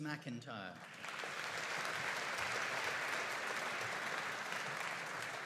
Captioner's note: audience applauding